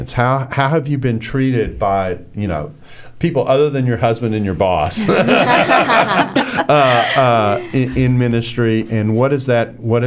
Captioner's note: laughter